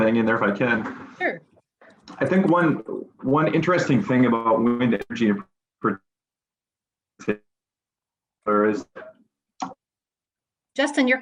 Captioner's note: audio interference